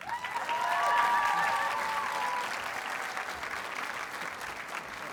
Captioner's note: audience cheers and applauds